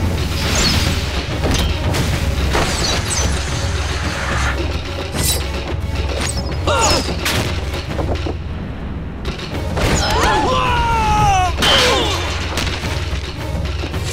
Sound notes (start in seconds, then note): 10.0 groaning